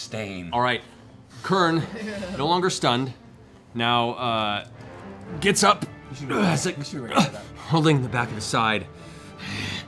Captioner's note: grunts